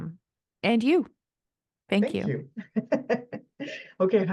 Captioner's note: laughs